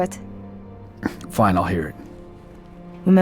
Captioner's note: scoff